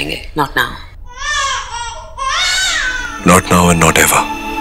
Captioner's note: Baby crying